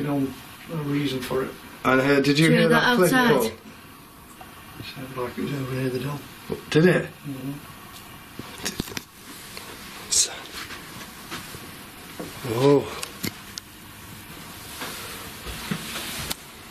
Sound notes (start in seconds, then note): none